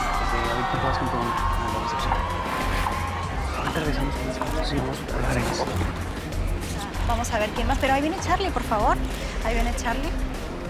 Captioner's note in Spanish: Ríe; Susurra